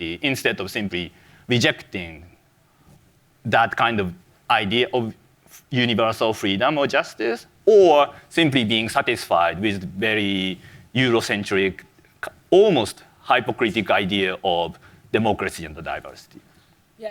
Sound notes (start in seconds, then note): none